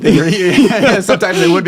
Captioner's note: laughing